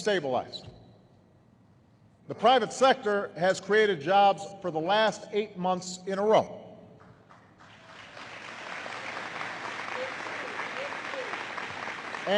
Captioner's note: applause